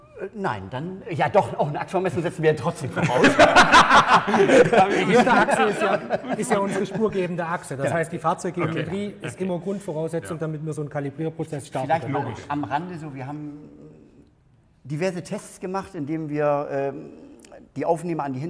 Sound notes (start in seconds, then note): 2.9 laughter